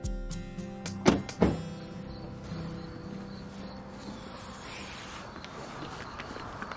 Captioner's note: truck door bangs; insects chirping